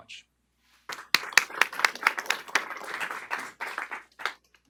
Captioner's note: applause